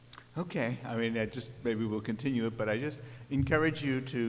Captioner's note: voiceover